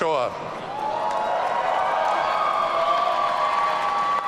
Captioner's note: audience cheering